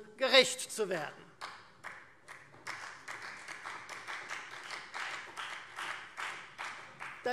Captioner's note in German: Beifall Freie Demokraten